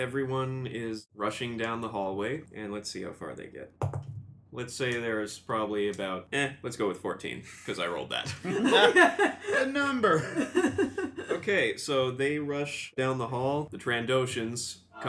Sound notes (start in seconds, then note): 8.2 laughter